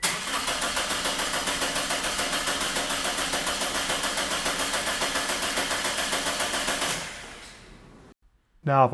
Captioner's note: cranking Engine Sound